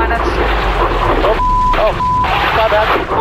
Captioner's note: beep